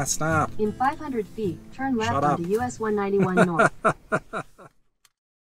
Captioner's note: laughs